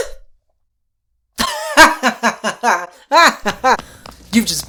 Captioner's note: laughter, but evil